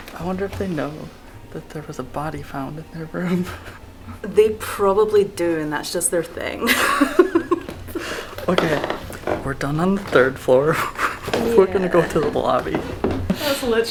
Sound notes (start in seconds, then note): 6.6 laughter